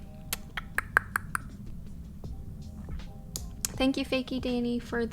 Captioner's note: clicking her mouth